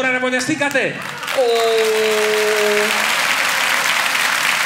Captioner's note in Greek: θερμό χειροκρότημα